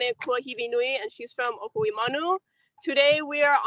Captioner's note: speaking native language